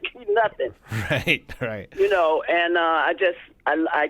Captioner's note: laughter